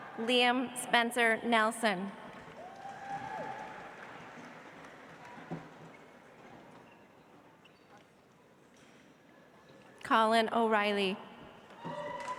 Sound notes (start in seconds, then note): 2.4 audience applauds; 12.1 audience applauds